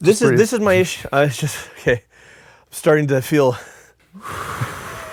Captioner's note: breathes out